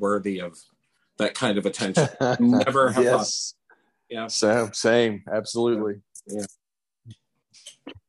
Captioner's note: laughs